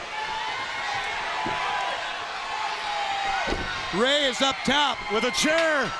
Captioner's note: crowd chatter